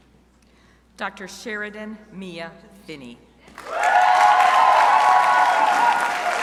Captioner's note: crowd applauding